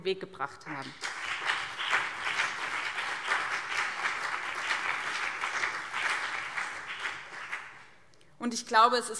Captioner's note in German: Beifall BÜNDNIS 90/DIE GRÜNEN und CDU